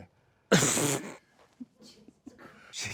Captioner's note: snickering